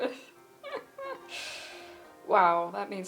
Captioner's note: laughs